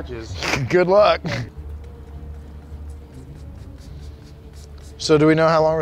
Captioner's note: spraying sounds